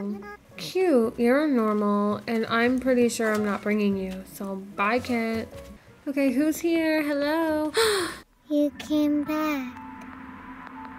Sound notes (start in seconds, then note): 7.7 gasp; 9.0 eerie music